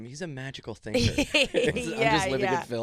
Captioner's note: laughing